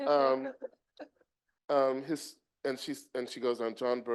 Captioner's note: group chuckling